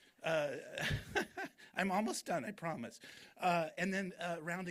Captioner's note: laughs